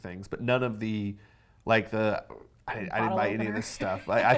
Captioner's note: laughs